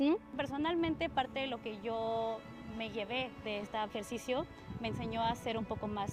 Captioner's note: speaking in Spanish